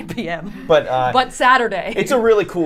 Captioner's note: laughs